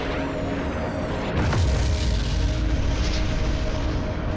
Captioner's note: explosion blasts